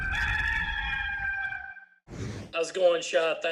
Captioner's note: bird crows